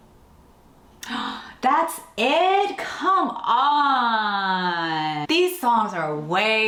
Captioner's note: gasps